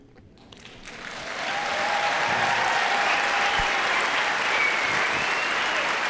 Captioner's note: audience applauding and cheering